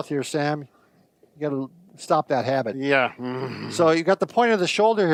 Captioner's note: growls